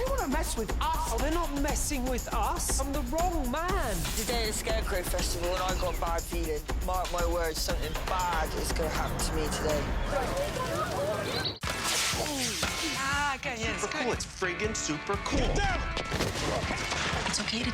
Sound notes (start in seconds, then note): 9.7 fire blazing